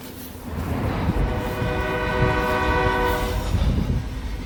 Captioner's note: train horn